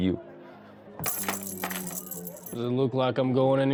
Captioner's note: rattling handcuff